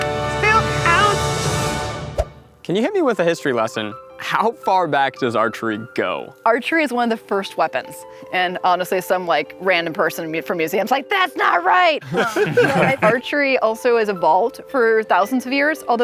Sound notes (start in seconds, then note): 12.0 laughing